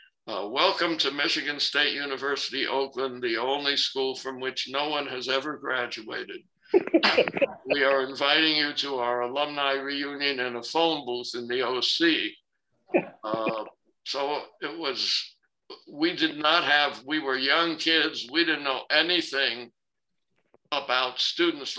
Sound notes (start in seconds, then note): 6.8 laughter